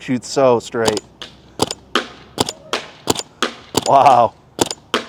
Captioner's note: paintballs ricocheting